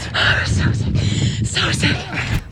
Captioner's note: breathing heavily